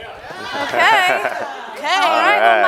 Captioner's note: audience chatters affirmatively